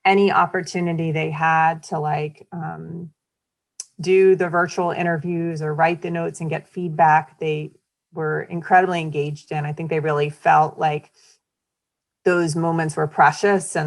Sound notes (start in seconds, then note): none